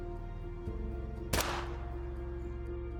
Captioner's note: gun shot